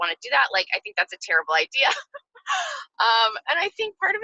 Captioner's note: laughs